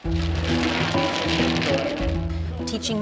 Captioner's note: tiles clacking and shuffling